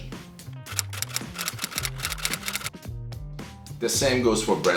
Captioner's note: keyboard keys clicking